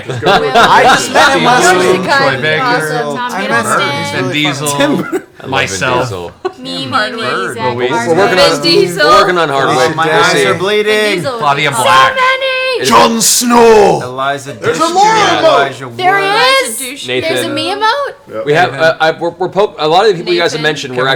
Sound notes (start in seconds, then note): 4.7 laughs; 13.1 deep voice